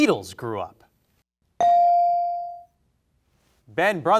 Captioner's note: bell rings